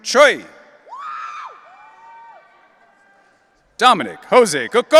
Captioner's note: audience cheering